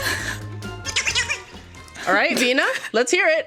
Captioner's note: noise squeaks